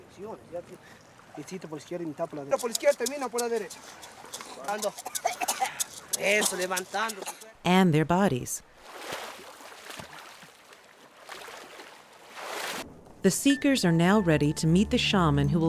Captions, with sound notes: (speaking in foreign language) (coughing) And their bodies. (splashing) The seekers are now ready to meet the shaman